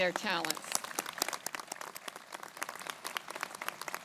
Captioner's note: crowd applauding